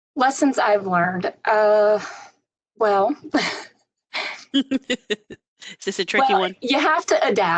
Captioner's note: laughter